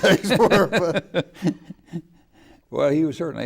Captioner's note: laughing